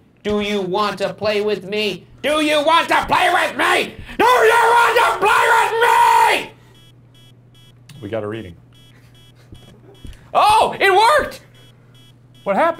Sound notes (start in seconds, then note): 6.9 device beeping